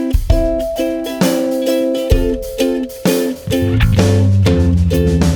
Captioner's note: mmhg